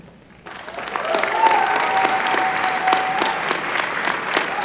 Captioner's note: applause